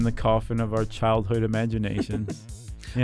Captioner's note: laughs